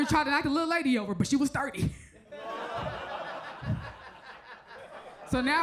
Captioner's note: audience laughs